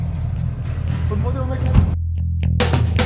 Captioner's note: door slams